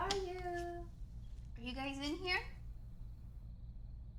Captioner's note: door clicks